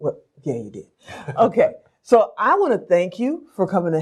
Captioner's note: laughs